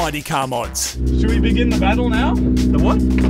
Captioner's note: engine idling